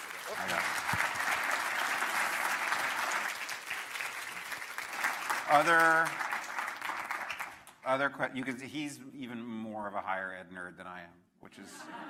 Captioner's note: applause